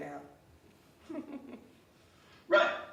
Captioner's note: laughing